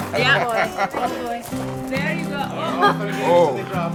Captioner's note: laughter